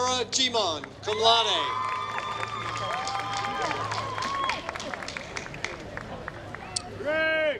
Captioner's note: applause